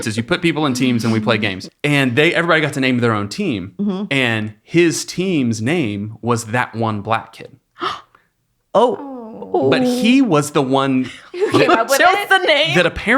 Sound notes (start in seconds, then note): 7.8 gasping